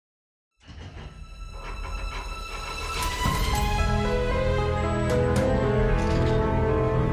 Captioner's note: dramatic music; vault clicking